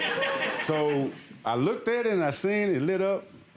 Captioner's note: audience laughing